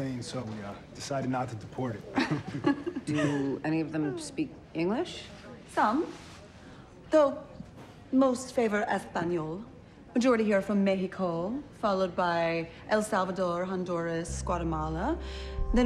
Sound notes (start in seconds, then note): 2.2 laughs; 7.4 speaking foreign language